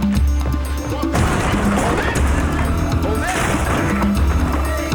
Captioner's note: door crashing